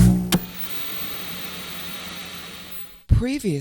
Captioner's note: television static